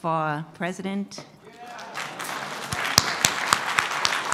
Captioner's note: applause